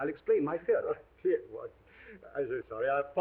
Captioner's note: chuckles